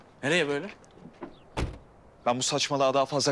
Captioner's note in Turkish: Kapıyı Kapatıyor